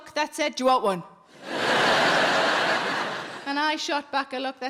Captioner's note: audience laughing